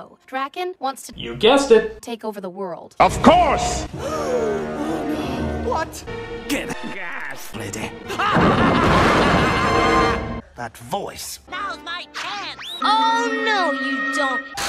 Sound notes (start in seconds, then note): 4.4 gasps; 8.0 laughs evilly